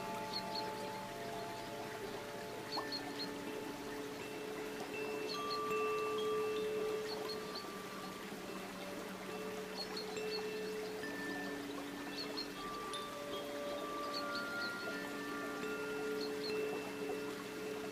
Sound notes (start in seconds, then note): 2.8 bells lightly chiming; 2.8 water babbling